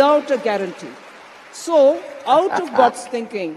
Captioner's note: audience applauds